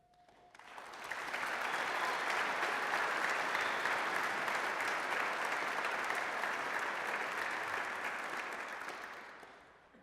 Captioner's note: applause